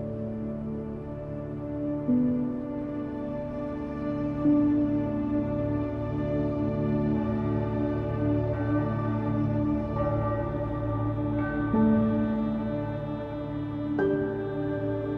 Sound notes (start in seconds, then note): 10.2 church bells ringing